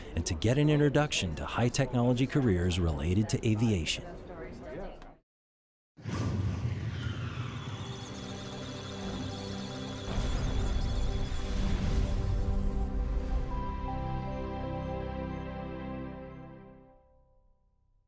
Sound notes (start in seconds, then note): 7.6 electronic sounds of data